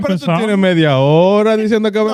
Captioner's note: speaking Foreign Language